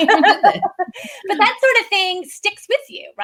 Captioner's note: laughs